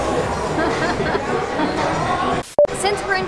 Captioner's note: laughs